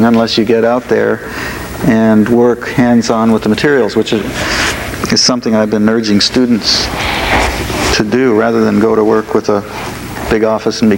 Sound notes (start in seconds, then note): none